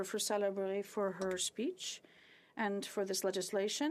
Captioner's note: speaking French